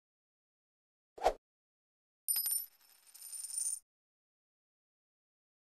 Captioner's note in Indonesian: coin sound